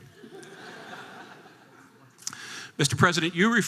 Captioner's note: audience laughter